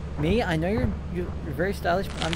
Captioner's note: creature outside stomping about